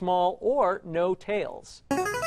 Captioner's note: ringer